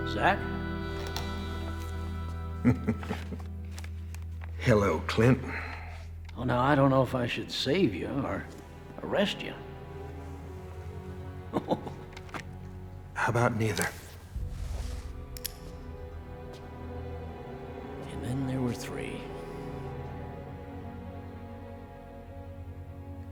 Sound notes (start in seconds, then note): 2.6 chuckling; 11.5 chuckles; 15.1 gun clicks